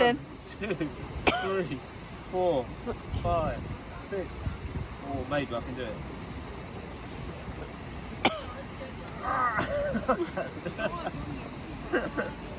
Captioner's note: laughs